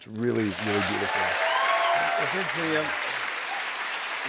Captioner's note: cheers and applause